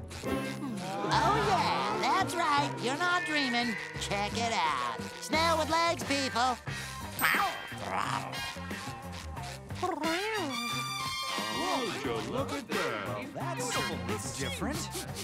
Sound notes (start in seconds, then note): 7.8 meowing; 9.7 meowing